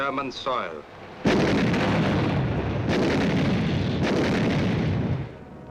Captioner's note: explosion booming